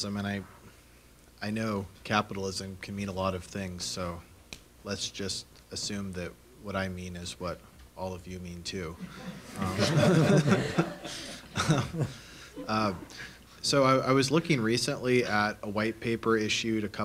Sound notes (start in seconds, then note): 9.0 laughter